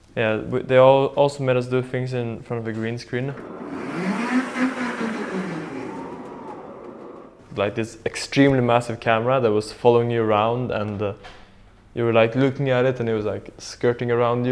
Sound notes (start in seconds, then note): 3.4 camera whooshing